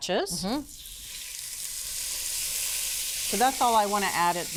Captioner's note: oil sizzling